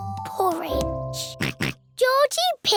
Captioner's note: oinks